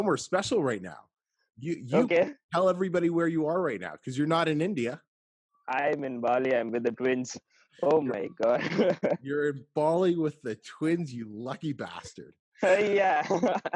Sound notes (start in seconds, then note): 8.2 laughs; 12.6 laughs